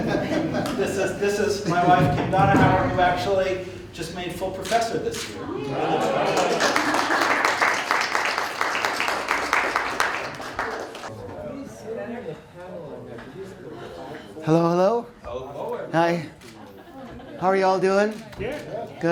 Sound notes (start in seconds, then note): 5.9 applause